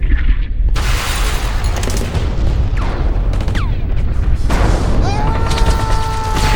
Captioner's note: deep thunder rumbles; gunshots whizzing; thunder claps; Stephen yells